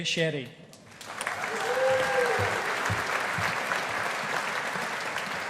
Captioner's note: audience applauding